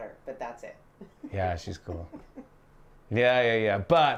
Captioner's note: laughs